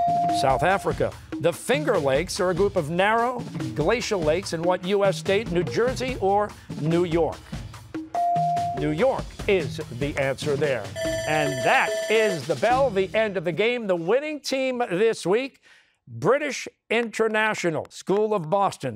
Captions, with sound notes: South Africa. The Finger Lakes are a group of narrow, glacial lakes in what U.S. state? New Jersey or New York? New York is the answer there. (bell ringing) And that is the bell, the end of the game. The winning team this week: British International School of Boston.